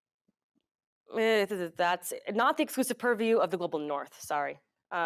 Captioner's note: mumbles